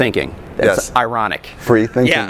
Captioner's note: laughs